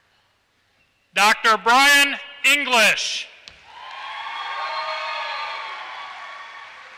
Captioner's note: applause